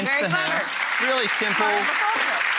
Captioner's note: applause